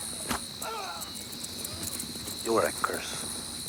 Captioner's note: rider groans